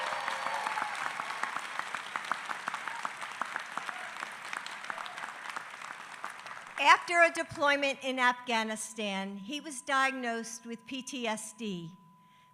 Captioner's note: applause